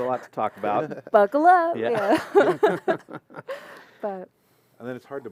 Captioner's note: laughter